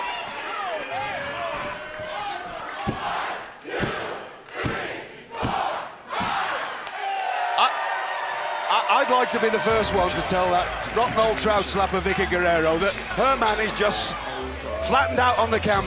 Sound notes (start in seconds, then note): 0.0 crowd cheering; 9.4 crowd cheering